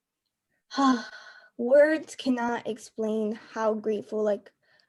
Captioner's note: sigh